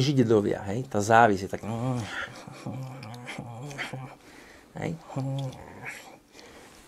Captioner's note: growls